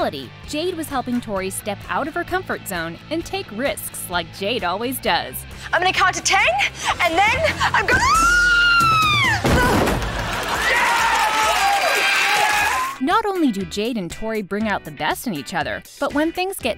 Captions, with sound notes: Jade was helping Tori step out of her comfort zone and take risks like Jade always does. I'm gonna count to ten and then I'm gonna-- [screaming] [groaning] [cheering] Not only do Jade and Tori bring out the best in each other, but when things get tough,